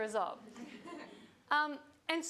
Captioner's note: audience laughing